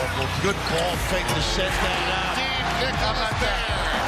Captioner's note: crowd cheers